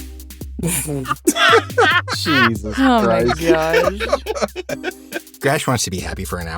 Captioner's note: laughs